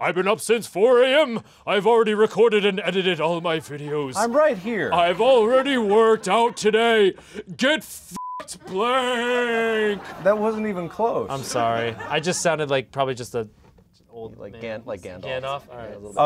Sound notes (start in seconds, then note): 0.1 imitates Mark's super deep voice; 5.3 continues in deep voice